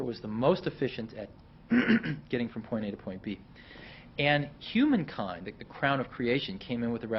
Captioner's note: clears throat